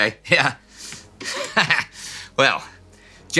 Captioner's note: chuckles